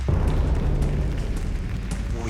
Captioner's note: applause; tense music